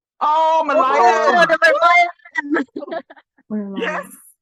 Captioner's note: collective screaming Merlion